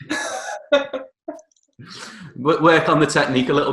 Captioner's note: chuckling